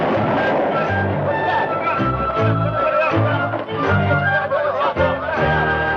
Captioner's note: gunfire; shouting